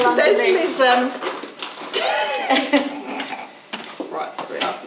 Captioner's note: laughing